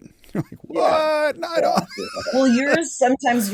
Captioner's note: laughs